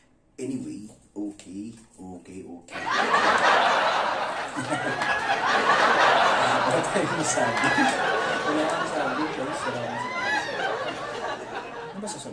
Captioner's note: laugh